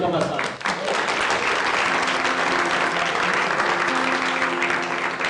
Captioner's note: applause